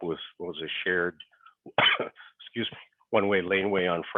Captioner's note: coughs